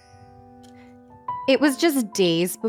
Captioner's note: chimes